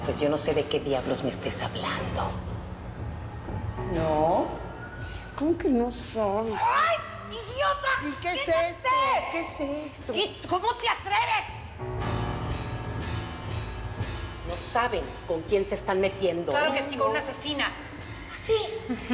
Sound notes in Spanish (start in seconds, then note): 7.3 gritos de cruz